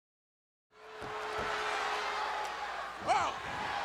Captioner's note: crowd chattering